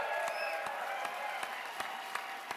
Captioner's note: cheers and applause